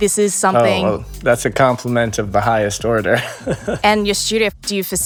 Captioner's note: chuckling